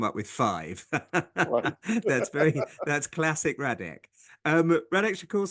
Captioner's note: laugh